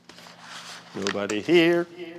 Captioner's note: paper rustling